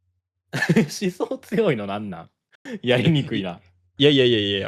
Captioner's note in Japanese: 笑い